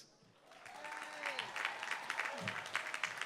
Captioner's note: applause